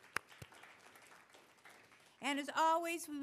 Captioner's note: applause